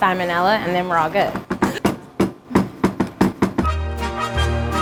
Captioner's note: banging; happy trumpet music